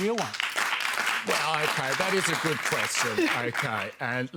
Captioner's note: applause